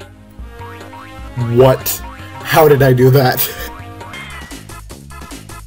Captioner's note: laughs